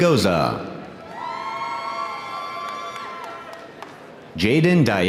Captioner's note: audience cheering